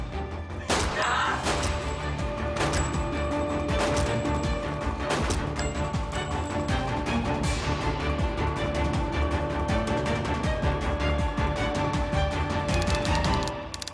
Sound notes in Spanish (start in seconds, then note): 0.6 Disparos; 3.6 Disparos